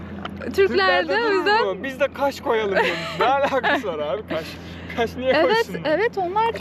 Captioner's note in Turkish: kahkaha